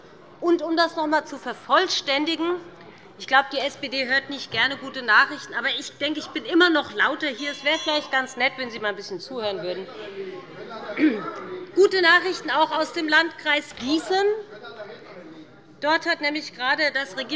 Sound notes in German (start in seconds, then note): 7.4 Glockenzeichen des Präsidenten